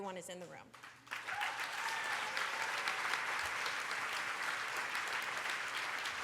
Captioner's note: cheers